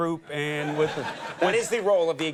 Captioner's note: audience laughs